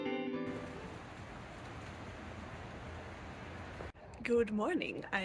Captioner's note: rain sounds